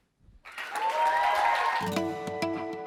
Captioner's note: applause